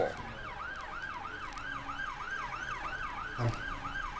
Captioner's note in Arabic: صافرات الإنذار في حالات الطوارئ تدوي